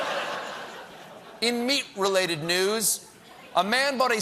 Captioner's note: laughter